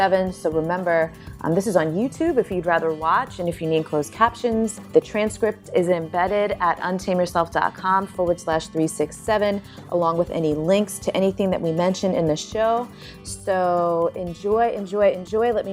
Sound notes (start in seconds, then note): none